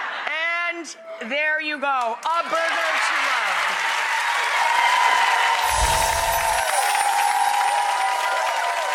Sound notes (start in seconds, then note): 2.2 audience applauding